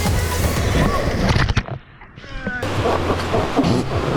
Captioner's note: raft squeaks; water sloshing over camera